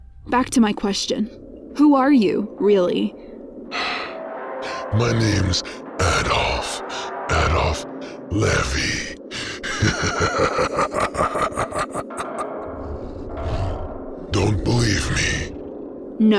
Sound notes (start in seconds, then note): 9.2 laughs